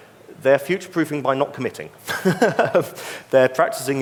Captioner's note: laughs